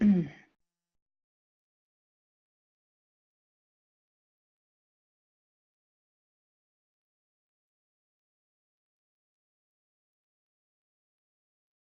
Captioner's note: clearing throat